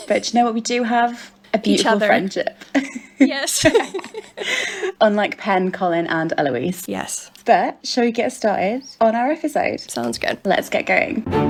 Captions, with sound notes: But you know what we do have? - A beautiful friendship. - Each other. - Yes. (laughs) - Unlike Pen, Colin, and Eloise. - Yes. - But, shall we get started on our episode? - Sounds good. - Let's get going.